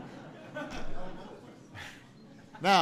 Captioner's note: laughter